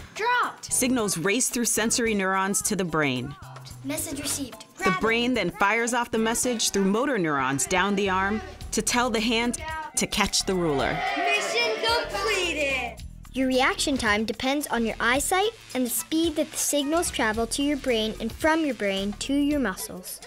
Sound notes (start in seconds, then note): 3.8 kids continue saying "Dropped!"; 10.4 kids cheer